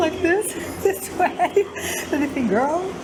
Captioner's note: laughs